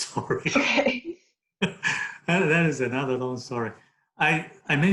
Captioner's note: both laugh